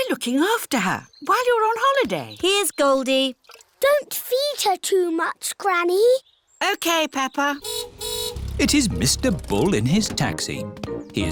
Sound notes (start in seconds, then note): 7.6 car horn honks